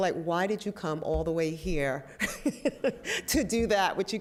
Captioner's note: laugh